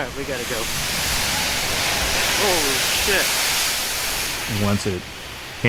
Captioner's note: fire flames crackling